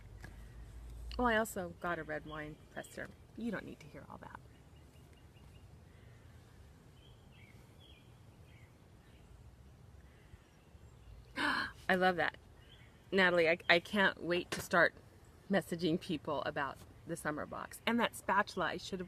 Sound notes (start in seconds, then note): 6.1 birds chirping; 11.4 gasps